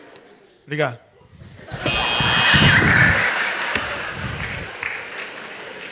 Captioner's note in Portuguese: campainha